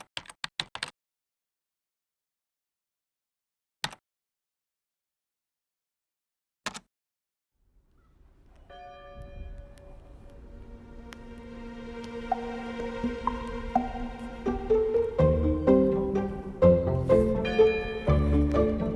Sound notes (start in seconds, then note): 0.0 keyboard typing; 8.7 bell ringing; 10.8 uplifting music